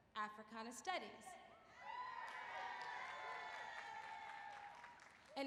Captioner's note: applause